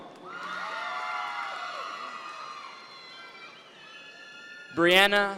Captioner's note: audience members cheer